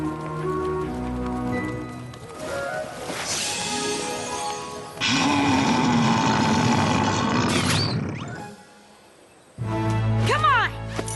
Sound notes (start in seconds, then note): 5.0 loud growling noise